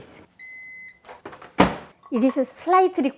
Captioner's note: electronic beep